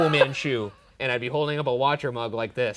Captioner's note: laughs